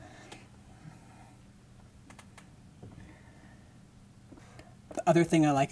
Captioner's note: chair creaking